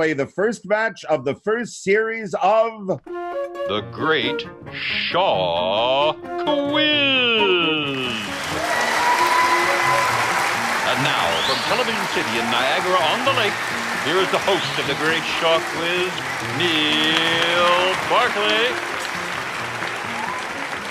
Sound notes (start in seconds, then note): 7.8 audience applauding; 17.7 audience applauding